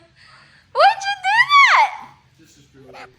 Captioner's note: me laughing forcefully; me in High pitch voice